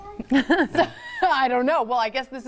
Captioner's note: laughs